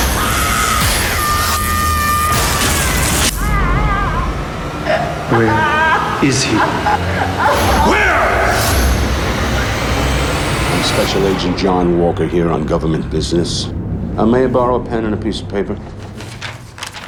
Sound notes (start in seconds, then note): 0.0 woman screaming; 3.3 woman sobbing; 9.1 menacing music